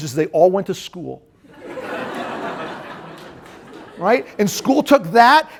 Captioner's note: laughter